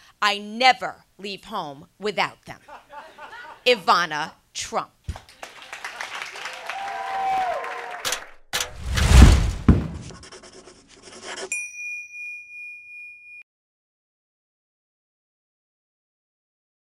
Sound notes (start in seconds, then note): 5.1 applause